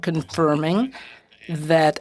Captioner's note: speaking French